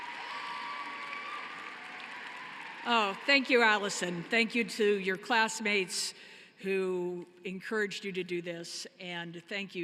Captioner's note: cheering and applause